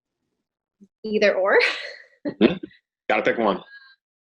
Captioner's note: chuckling